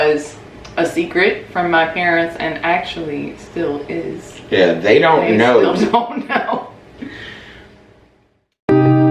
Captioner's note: laughing